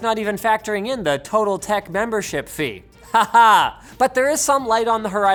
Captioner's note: laughs